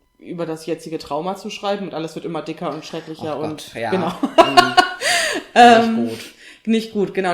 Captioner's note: laughs